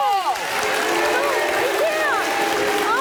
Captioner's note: audience cheering